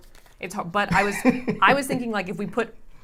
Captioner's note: laughs